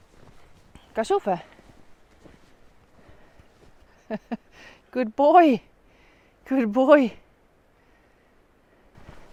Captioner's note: swiss german: gasch ufe?